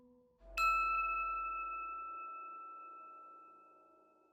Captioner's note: bell chime